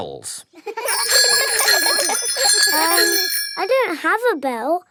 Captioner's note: giggling and ringing bells